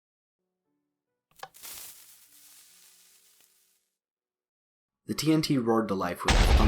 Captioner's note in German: Geräusch von zündendem und explodierendem TNT